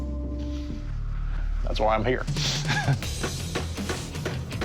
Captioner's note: chuckles